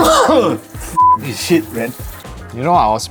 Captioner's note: beep